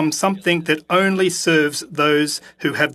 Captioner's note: speaking French